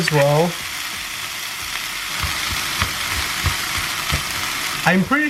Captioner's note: sizzling noise